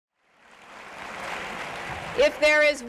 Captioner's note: applause